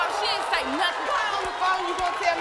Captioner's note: audience cheering